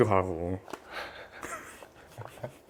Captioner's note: haha; giggle